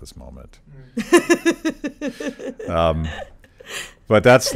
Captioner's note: laughs